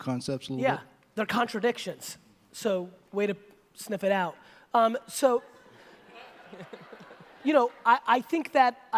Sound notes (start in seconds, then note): 5.6 audience laughter